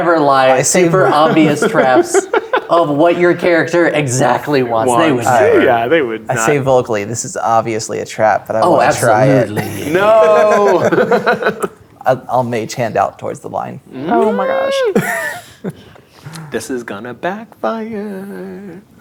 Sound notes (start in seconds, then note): 4.2 laughing; 9.3 players laughing